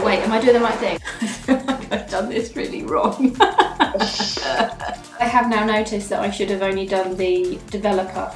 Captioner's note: laughs